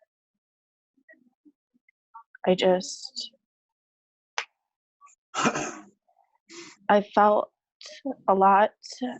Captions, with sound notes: I just... (clears throat) I felt a lot.